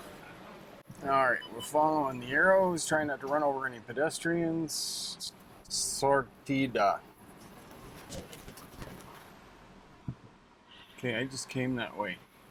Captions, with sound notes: All right, we're following the arrows, trying not to run over any pedestrians. (speaking Spanish) Okay, I just came that way.